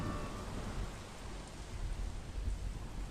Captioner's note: wind whooshing